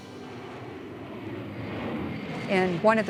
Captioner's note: plane engine roaring